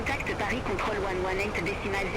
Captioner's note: radio chatter